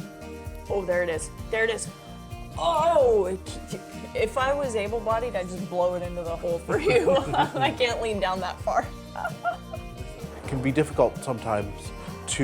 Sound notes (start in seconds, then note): 6.7 laughter